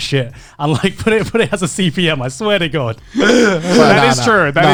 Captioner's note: laughs